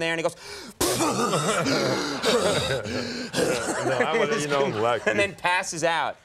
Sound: excessively breathing

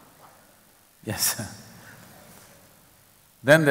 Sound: laughs

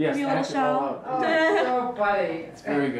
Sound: laughs

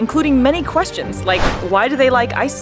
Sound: whooshing sound effect

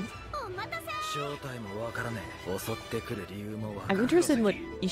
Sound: speaking in foreign language

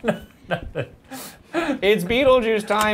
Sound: laughs

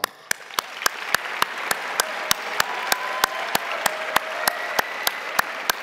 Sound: crowd applauding; crowd cheering

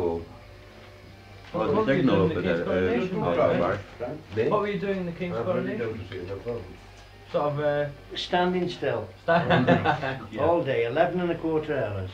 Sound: laughter

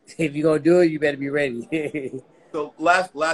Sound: laughing

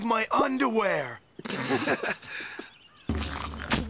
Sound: Duncan and Geoff Giggling

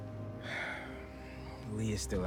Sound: sigh

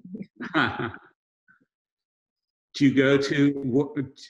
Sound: both laughing

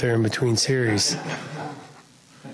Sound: laughs

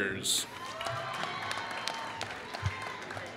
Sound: applause

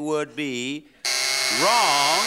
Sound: buzzer

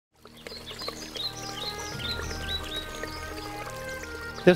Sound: birds chirping

